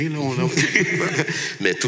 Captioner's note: laughs